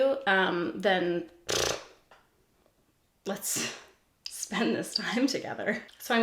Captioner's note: blows a raspberry